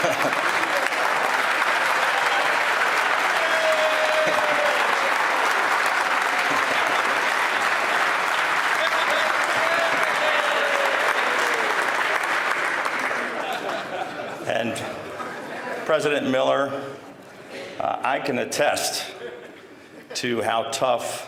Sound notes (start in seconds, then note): 7.5 laughter; 7.8 applause